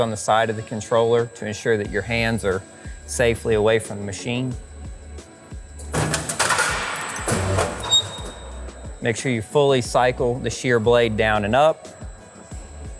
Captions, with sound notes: on the side of the controller to ensure that your hands are safely away from the machine. (machine clacks) Make sure you fully cycle the shear blade down and up,